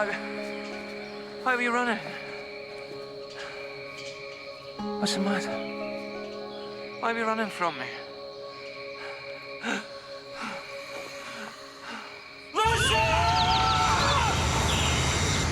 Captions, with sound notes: Why... Why were you running? What's the matter? Why were you running from me? (gasps) Lucia!